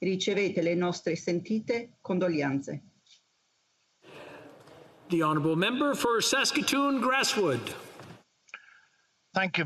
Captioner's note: speaking Alternate Language